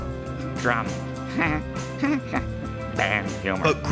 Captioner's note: chuckles